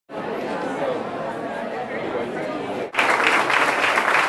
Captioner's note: audience chattering in the background; audience applauding